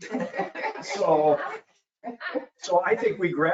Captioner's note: laughing